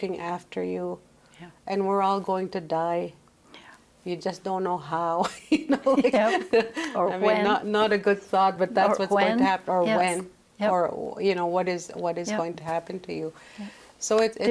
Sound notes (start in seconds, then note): 5.9 laughs